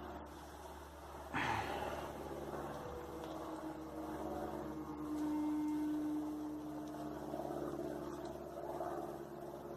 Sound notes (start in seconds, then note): 1.3 sighs; 6.5 cropduster in da background